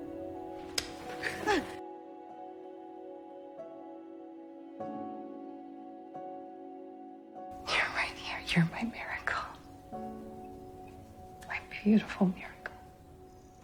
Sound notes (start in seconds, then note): 1.1 June gasps in surprise; 7.9 voiceover; 11.8 whispering